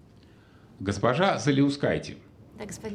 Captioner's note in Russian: none